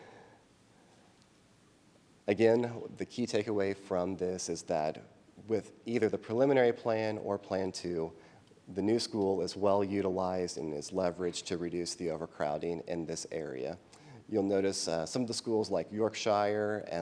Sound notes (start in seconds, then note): none